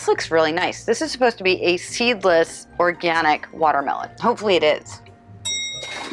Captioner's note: ding